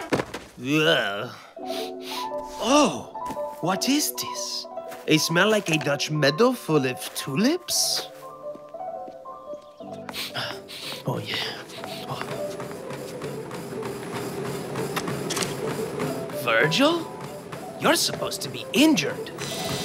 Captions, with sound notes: (Grunts) (Sniffs) Oh. What is this? A smell like a Dutch meadow full of tulips? (Sniffs) Oh yeah. (Sniffs) Virgil? You're supposed to be injured.